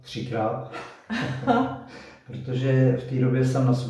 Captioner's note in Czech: Smích